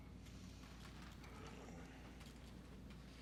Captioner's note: softly groans